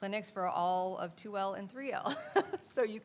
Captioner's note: laughs